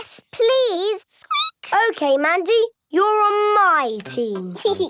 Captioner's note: squeaking; giggling; laughing